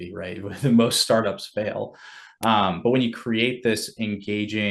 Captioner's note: laughs